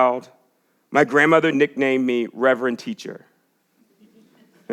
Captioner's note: chuckles